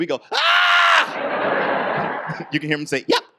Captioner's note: audience laughs